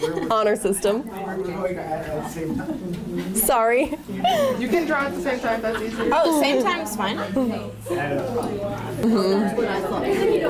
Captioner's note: laughter